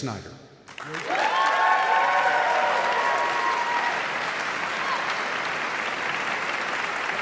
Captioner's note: audience clapping; audience cheering